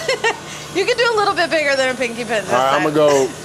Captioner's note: laughs